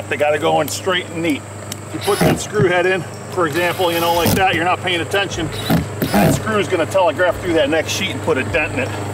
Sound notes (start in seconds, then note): 5.4 drill rattling